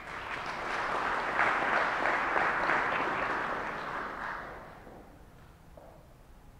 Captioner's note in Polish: oklaski